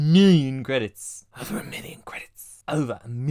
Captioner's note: whispering